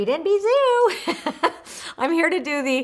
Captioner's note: laughs